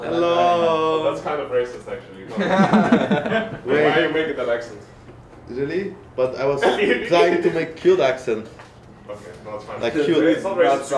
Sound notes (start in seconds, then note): 2.3 snickering